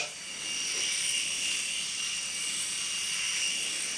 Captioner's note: razor buzzing